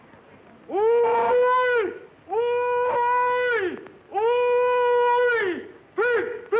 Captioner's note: hollering